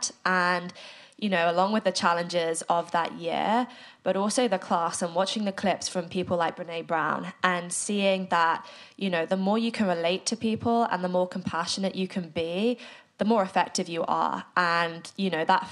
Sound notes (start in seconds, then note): none